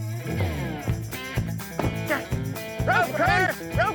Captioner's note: door closes